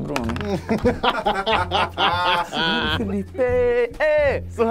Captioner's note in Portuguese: risadas